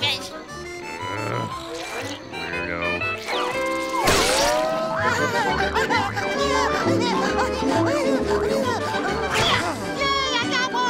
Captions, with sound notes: [groaning] Weirdo. [giggling] [grunting] Yay, I got one!